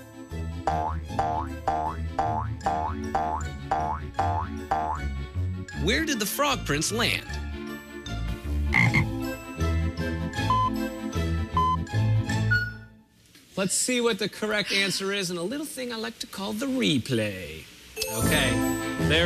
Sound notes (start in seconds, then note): 8.7 frog croaks; 11.6 electronic beeping